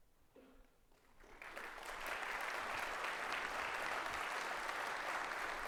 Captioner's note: audience applauding